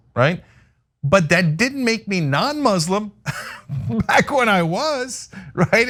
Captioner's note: laugh